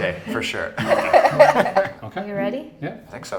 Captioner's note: laughter